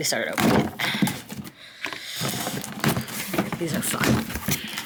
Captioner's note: box thumping